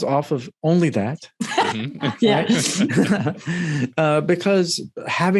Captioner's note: all laughing loudly